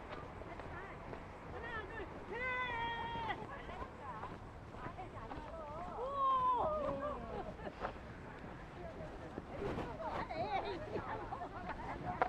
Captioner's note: people laughing and playing